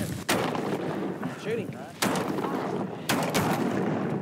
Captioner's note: gunshot; gunshots